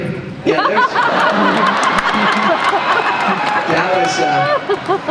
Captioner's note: laughter